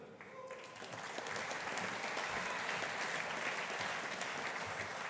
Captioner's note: audience applauding